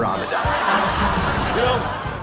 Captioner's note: upbeat music; crowd laughing